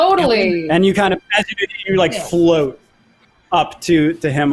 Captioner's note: distorted audio